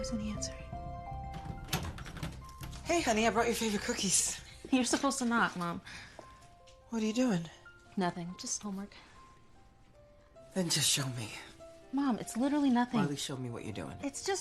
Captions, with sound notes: [door opens] Hey, honey. I brought your favorite cookies. -You're supposed to knock, Mom. -What are you doing? -Nothing. Just homework. -Then just show me. Mom, it's literarally nothing. Marley, show me what you're doing.